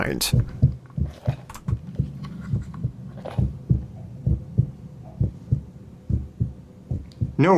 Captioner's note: heartbeat recording through monitors